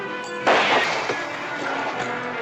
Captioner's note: gunshot